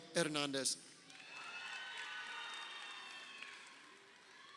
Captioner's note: crowd cheering